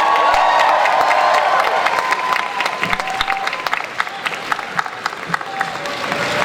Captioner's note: audience cheering and applause